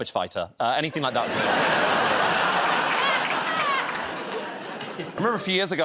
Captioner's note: laughter